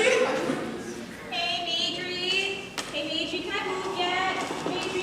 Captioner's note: groans